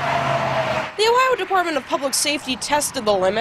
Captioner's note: sound of cars